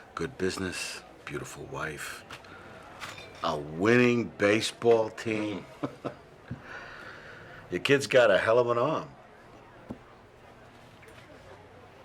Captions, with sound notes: Good business, beautiful wife. A winning baseball team (chuckles). Your kid's got a hell of an arm.